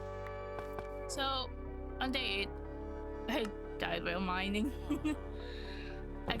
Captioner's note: laugh